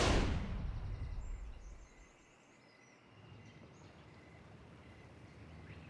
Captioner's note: bird chirp